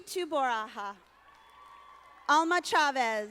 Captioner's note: audience applauding